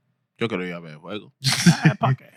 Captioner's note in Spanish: Hablando en idioma extranjero